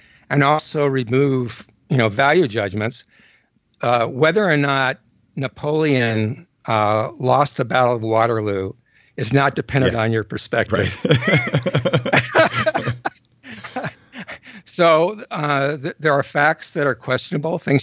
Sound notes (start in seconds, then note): 10.7 chuckles; 12.4 laughs